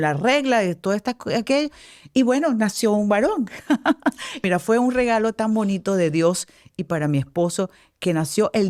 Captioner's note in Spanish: risas